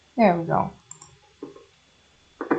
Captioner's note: clickety-click; clickety-click intensifies